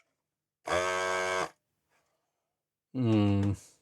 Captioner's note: buzzer